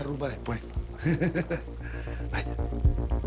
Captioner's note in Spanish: Risas